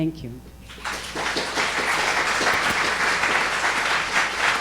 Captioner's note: audience applauding